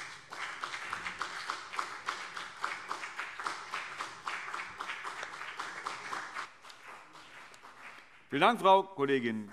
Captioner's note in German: Beifall BÜNDNIS 90/DIE GRÜNEN und CDU